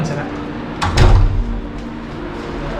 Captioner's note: closing door